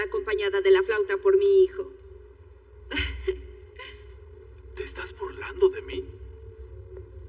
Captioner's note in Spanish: Ríe